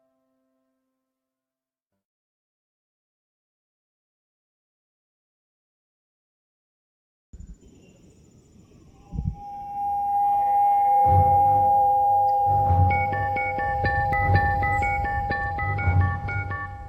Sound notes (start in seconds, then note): 9.1 slow dramatic music; 13.1 device beeping